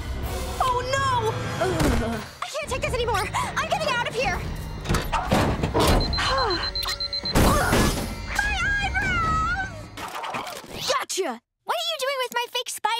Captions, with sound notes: Oh, no! [groaning] I can't take this anymore! I'm getting out of here! [beeping] [grunting] My eyebrows! Gotcha! What are you doing with my fake spider?